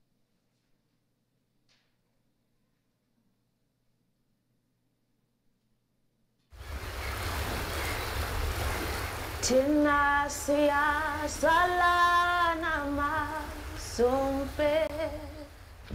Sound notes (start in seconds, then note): 6.3 waves crashing; 9.2 woman singing in South African language